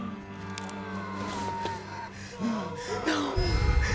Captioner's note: pale woman shrieking